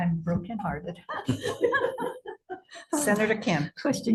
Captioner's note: members laugh